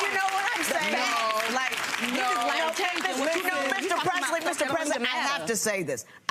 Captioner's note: audience applause drowns out words